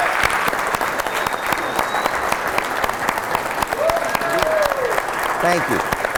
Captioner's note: applause